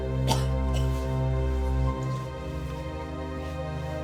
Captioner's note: coughing continues